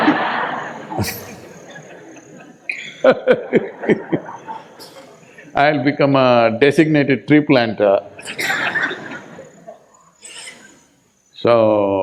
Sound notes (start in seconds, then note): 0.0 laughter